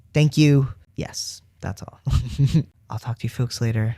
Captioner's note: laugh